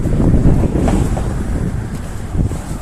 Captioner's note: wind howling